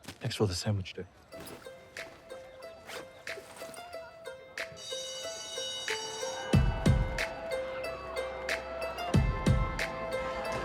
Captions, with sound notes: Thanks for the sandwich, though. (RUSTLING, BAG ZIPS) (SCHOOL BELL RINGS, STUDENTS CLAMOUR)